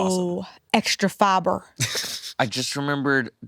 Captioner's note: laughs